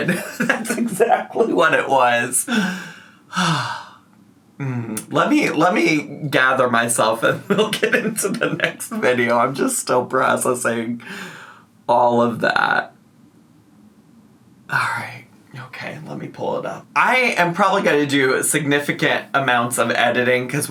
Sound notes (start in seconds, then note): 2.4 sighs